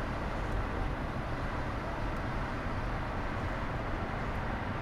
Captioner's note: car humming continues